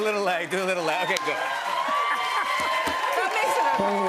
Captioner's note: cheers and applause